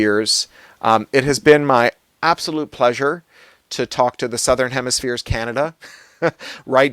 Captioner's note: laughs